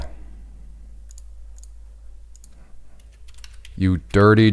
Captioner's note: mouse clicking